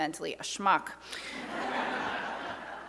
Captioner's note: crowd laughs